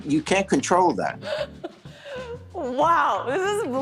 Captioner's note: laughs